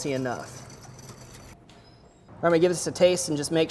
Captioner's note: whisk scrapes